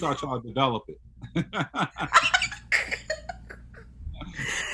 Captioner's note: laughing